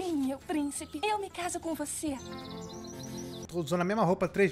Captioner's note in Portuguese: pássaros cantando